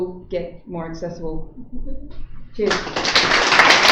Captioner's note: applause